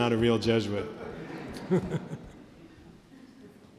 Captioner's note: laughter